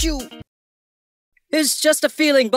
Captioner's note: silence